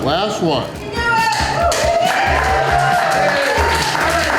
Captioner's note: crowd; crowd cheering